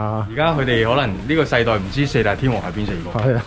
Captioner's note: laughs